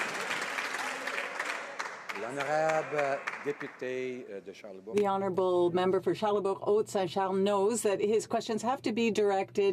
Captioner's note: some Applause